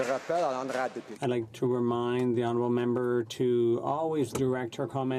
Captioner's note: some Applause